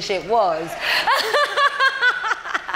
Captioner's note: laughs